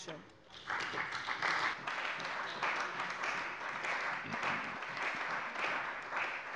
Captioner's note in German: Beifall bei der CDU und dem BÜNDNIS 90/DIE GRÜNEN